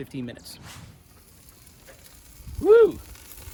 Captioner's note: grill hissing